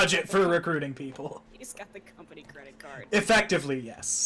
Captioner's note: laughing